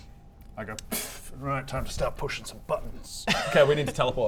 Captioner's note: pfft